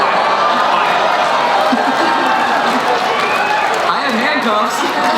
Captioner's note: crowd cheering